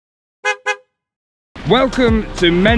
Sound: graphic whooshing; car horn tooting

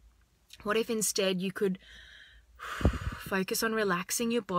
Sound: exhales

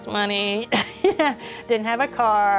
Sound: laughs

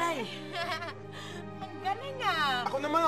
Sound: chuckles

